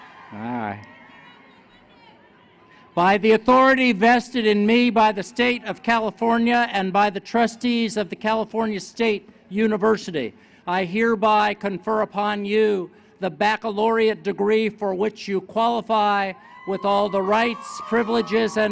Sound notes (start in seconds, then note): 0.0 cheers